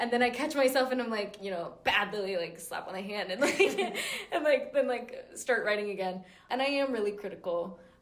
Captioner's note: laugh